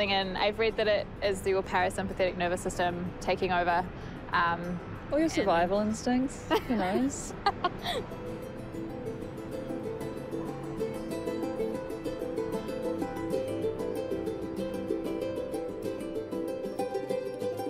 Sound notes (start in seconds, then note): 6.5 laughs; 9.5 tranquil music continues